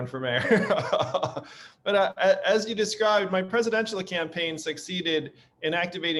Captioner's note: laughing